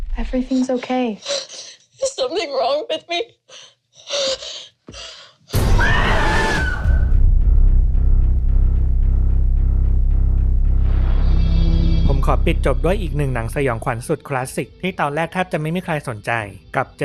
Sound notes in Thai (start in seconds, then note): 3.4 เสียงหายใจอ้าปากค้าง; 5.0 เสียงสูดหายใจ; 5.6 เสียงกรีดร้อง